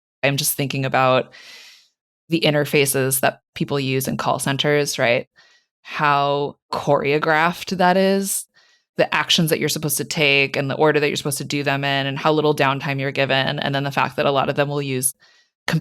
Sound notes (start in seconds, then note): none